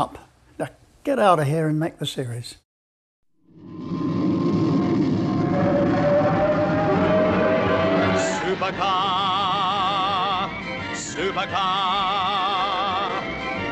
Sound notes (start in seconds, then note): 3.6 engine roaring; 4.9 suspenseful music